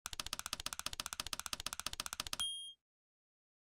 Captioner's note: typing sounds